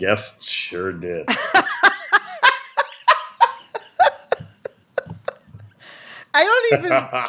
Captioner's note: laughter